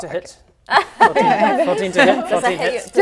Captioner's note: laughs